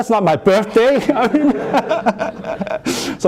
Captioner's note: laughter